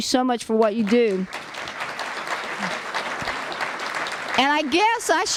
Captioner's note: applause